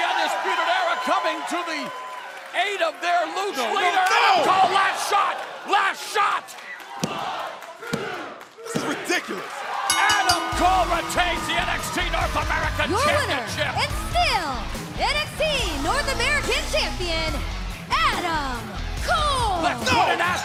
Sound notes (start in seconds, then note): 9.9 bell ringing